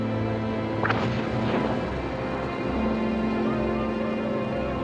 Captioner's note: engines firing